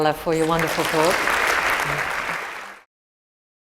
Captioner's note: applause